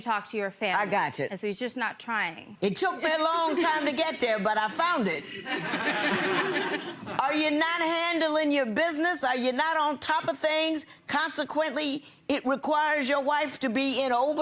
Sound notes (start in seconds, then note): 5.6 people laughing